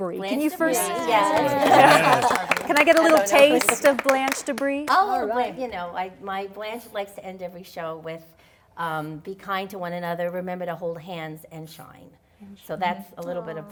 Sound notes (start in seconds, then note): 0.7 cheers and applause